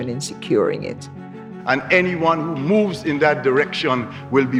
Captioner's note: soundbite of archived recording